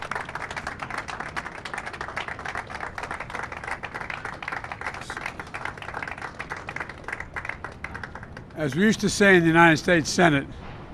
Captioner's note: cheers and applause